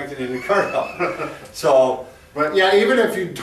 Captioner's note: laughing